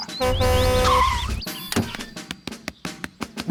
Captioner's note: honks and brakes